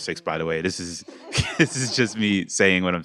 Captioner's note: laughter